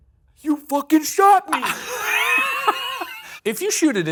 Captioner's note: laugh